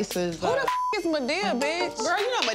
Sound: beep

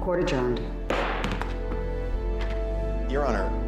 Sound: bangs gavel

